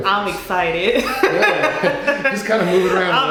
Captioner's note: laughing